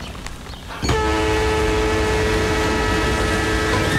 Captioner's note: Train horn blares